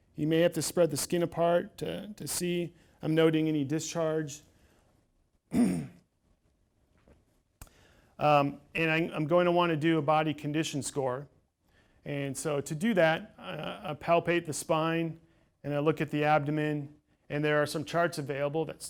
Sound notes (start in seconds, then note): 5.5 clears throat